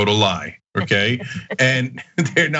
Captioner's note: laugh